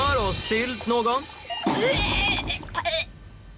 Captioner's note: vomits